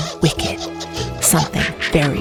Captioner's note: witch cackle